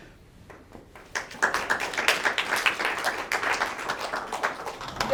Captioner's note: audience applauds